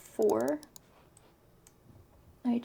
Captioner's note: mouse clicks